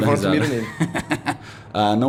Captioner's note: laughs